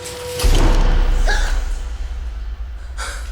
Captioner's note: gasps